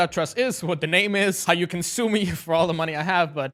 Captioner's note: laughing